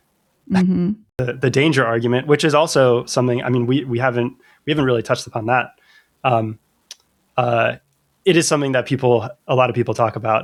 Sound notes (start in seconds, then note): 6.2 uh